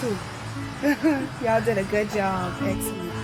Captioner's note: laughs